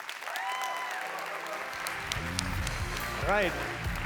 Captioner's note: applause